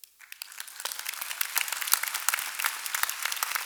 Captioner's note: applause